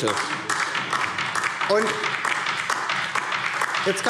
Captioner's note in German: Beifall DIE LINKE